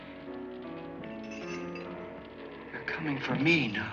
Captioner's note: glass jingling